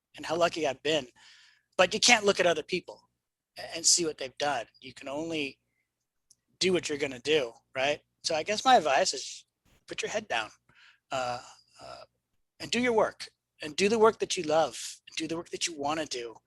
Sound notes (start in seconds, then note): none